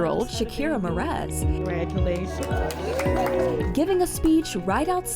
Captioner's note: audience cheering